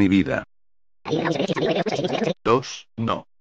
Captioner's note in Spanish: Sonido de rebobinado